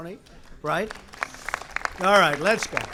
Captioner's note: applause